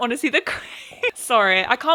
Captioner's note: laughs